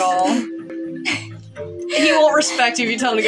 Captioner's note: snicker